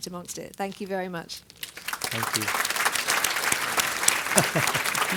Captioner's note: applause